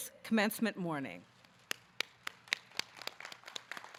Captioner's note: claps; audience claps